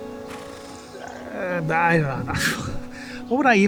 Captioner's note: scoffs